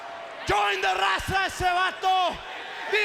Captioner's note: speaking foreign language